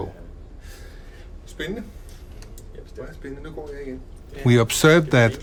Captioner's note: both speaking Danish